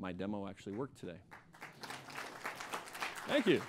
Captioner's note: applause